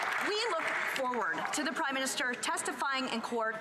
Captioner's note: some Applause